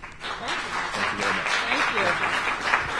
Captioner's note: applause